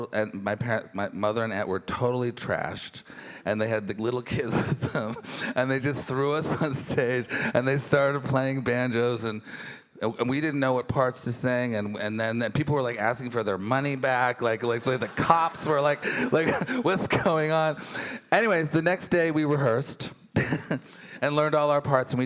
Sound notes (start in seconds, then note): 4.4 chuckles; 20.4 chuckles